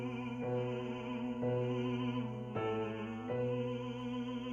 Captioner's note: humming